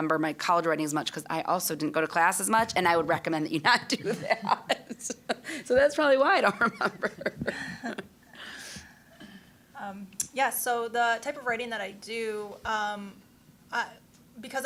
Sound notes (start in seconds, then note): 3.7 laughing